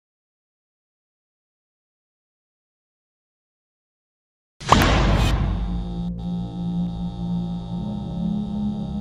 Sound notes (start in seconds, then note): 4.6 metal Door Slam